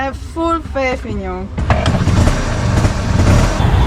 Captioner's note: engine starts; rickshaw engine